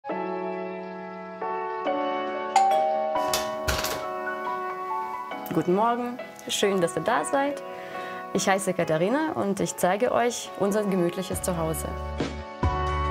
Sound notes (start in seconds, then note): 2.5 doorbells; 12.1 easy music